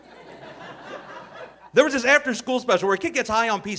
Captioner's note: audience laughing